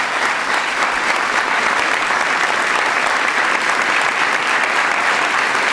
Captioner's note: applause